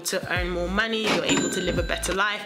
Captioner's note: cash register ringing